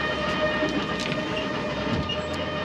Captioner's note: clattering; horn blaring